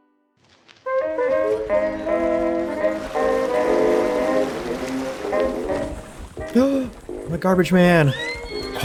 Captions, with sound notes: [Gasps] My garbage man!